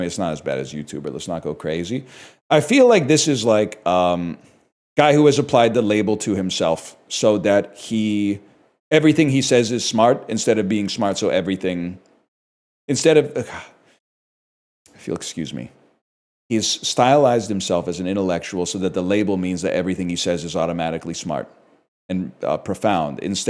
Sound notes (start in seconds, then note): 13.4 sighs